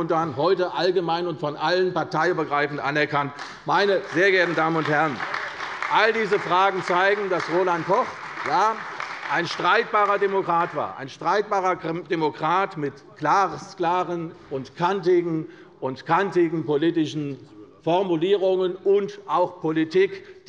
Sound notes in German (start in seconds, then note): 3.0 Beifall bei der CDU